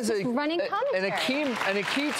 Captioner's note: audience applause